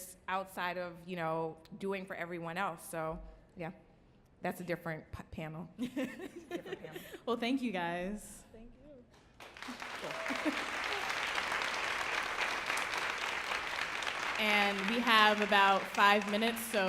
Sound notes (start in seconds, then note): 5.9 panelist laughing; 9.3 audience applauding and cheering